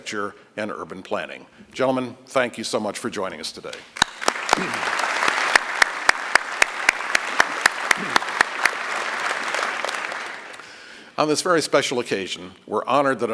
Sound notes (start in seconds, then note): 8.5 applause